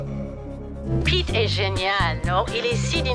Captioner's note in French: Madeline au téléphone